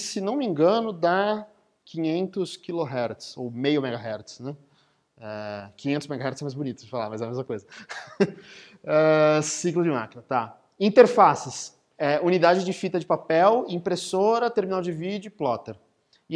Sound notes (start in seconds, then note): 7.7 laughing